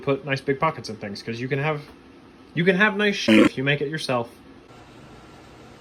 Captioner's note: walrus noise